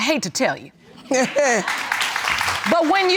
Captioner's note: chuckles; applause